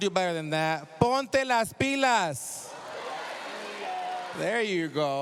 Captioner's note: speaking spanish